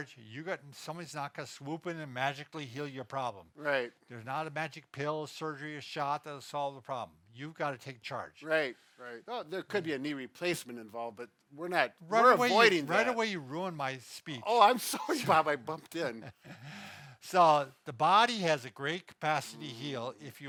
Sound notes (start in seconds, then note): 15.9 laughs